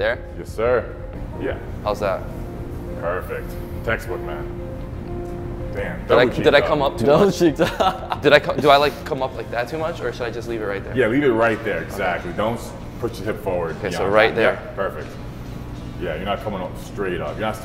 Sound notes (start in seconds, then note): 7.2 chuckling